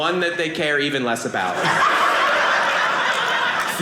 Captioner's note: audience laughing